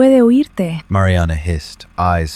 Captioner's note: Spanish